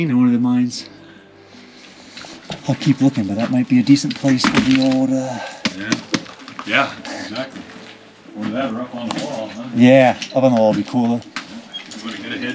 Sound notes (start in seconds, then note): 5.4 hand patting